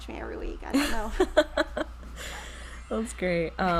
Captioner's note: chuckles